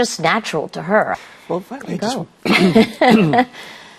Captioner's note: clears throat